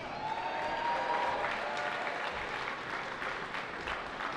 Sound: cheering

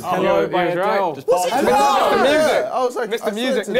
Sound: crowd mumbling

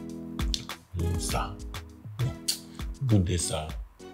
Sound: kisses lips

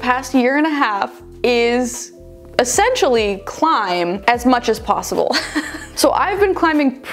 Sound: laughs

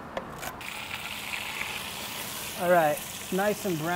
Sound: sizzling

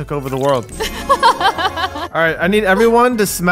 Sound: laughs

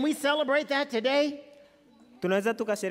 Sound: speaking foreign language

